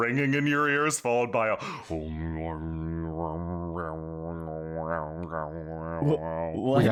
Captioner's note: ominous humming